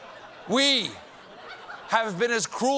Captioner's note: as boris